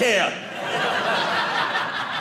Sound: audience laughing

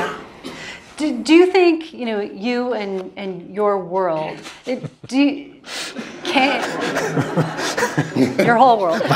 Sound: laugh

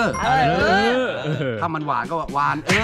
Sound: laughing

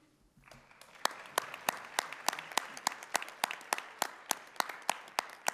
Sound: audience applauding

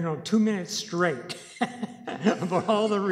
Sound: laughing

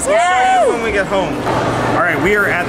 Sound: cheers

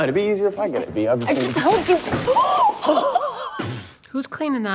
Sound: laughing

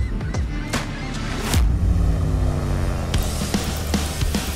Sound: seagulls cry; rushing water

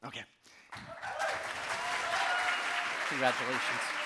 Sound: audience cheering and applauding

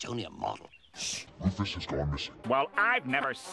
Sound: low-pitched

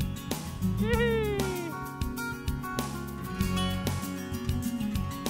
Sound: gleeful laughter

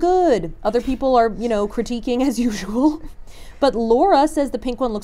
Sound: chuckles

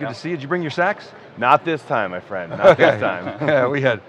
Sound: laughing

